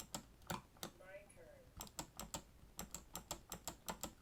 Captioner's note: switch clicking